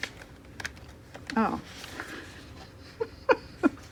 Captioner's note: laughs